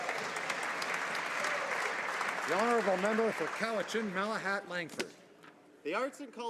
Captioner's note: applause